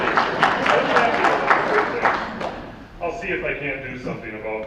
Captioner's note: audience claps